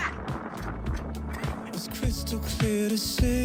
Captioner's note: chuckles